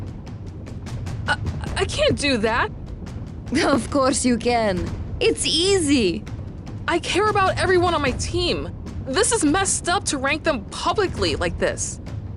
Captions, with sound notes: [stuttering] I can't do that! Of course you can! It's easy! I care for everyone on my team. This is messed up to rank them publicly like this!